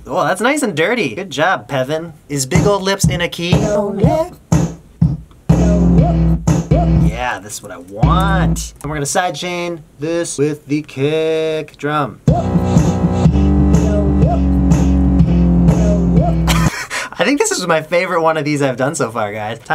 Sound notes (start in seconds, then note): 16.2 laughs